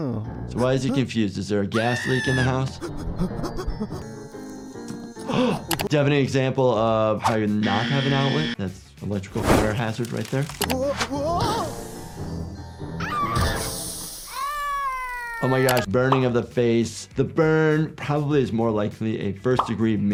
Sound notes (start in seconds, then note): 4.9 gasps; 14.3 giggles screams